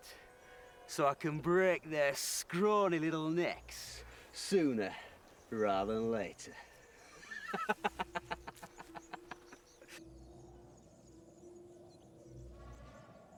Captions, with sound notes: so I can break their scrawny little necks sooner rather than later (laughs).